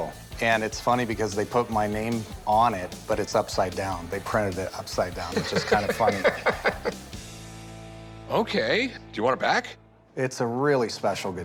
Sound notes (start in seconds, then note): 5.3 laughs